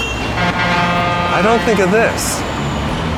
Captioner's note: truck horn blares